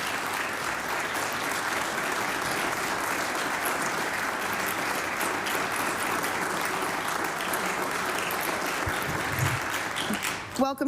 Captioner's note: applause